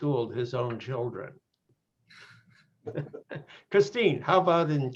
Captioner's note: laughter